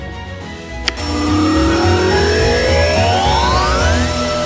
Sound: vacuum whirring

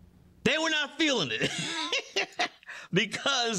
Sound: laughs

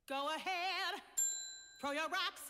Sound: bell dings

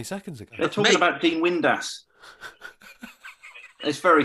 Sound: laughter

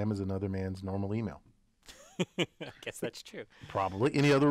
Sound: laugh

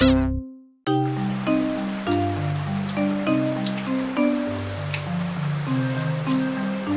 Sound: playful music; rainfall splattering

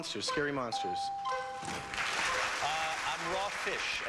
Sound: audience applauding

